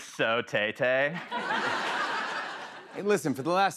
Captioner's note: laughter